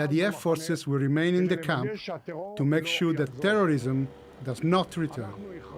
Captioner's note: speaking alternate language